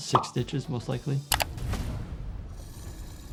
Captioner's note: mouse clicks; air rumbling